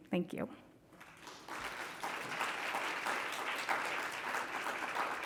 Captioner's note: congregation clapping